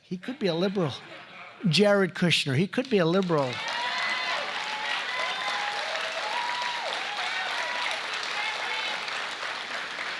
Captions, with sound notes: He could be a liberal." (laughter) Jared Kushner. He could be a liberal. (applause) He wanted to get that through.